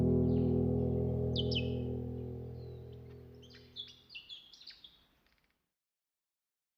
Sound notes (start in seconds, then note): 0.0 gentle music; 5.5 birds chirping